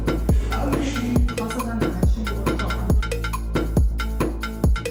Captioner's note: presenter speaking in foreign language; upbeat music continues